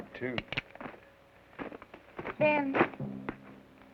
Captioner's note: gun cocks